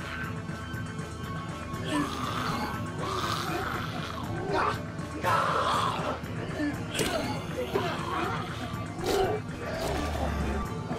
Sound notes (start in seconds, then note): 7.1 squelching